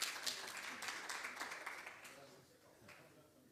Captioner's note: applause